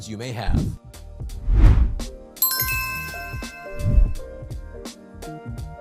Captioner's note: logo whooshing; logo dings; light upbeat music